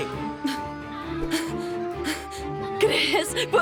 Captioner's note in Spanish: Jadeando